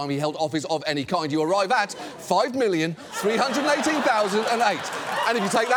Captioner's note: studio audience laughs